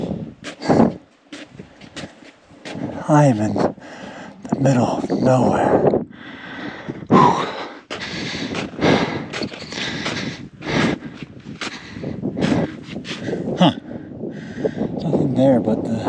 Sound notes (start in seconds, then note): 6.1 sighing; 7.9 feet shuffling; 8.0 panting